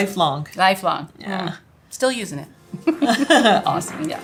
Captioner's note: women laughing